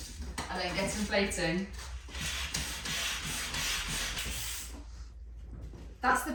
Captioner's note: hissing, pumping noise